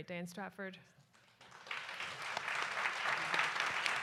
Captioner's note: applause